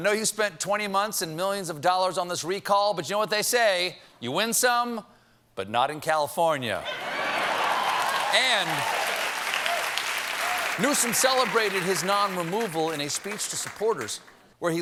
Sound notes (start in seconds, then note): 6.9 laughter; 7.2 applause